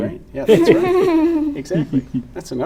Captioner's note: laughs